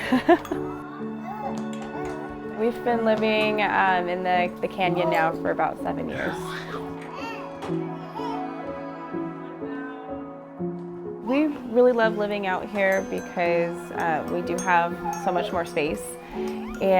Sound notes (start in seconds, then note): 0.0 laughs softly; 6.1 baby screaming